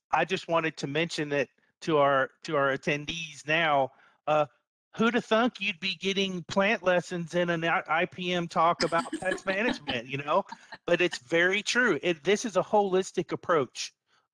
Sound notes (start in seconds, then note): 8.3 chuckling